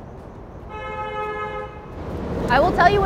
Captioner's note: car horn honking